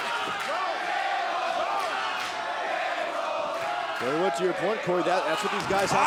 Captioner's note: crowd cheering